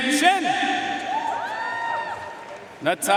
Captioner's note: audience cheering and applauding